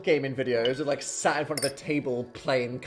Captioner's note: glass clinking